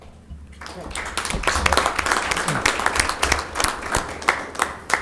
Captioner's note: board members clapping